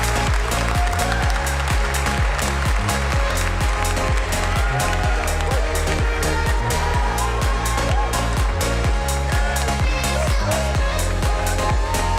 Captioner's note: applause